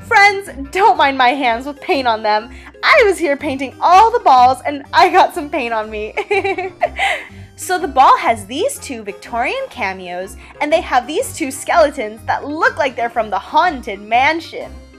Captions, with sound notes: Friends, don’t mind my hands with paint on them. I was here painting all the balls and I got some paint on me (giggle). So the ball has these two Victorian cameos and they have these two skeletons that look like they're from the Haunted Mansion.